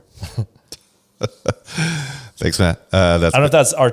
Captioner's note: laughs